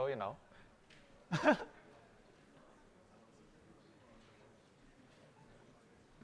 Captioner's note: laughter